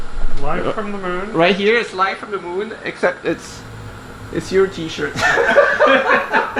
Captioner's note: laughter